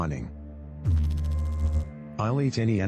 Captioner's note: electrical noise